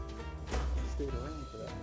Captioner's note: sounding gavel